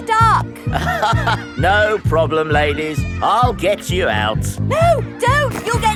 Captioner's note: chuckles